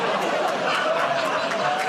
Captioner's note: audience "Oh"s